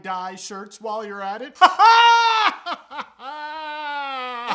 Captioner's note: weird laughing once more